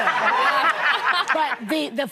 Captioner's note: audience laughing